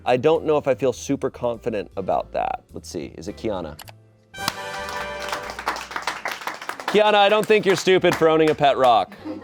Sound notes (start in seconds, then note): 4.3 triumphant music; 4.4 audience applauding